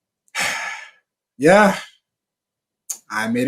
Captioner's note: sighs